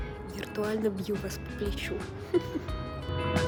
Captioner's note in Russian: смех